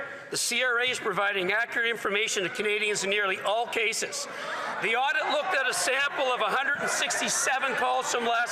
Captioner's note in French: voix de l'interprète